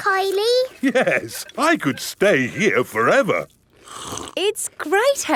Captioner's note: slurps